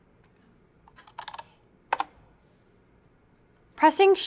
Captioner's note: typing